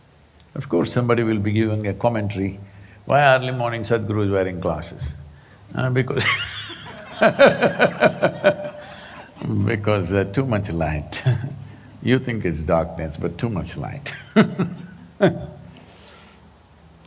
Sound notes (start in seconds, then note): 6.1 laughter; 14.0 laughs